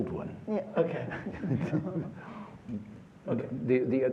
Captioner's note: laughter